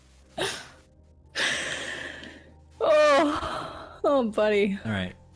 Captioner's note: exhale